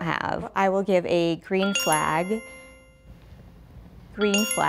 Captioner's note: bell dings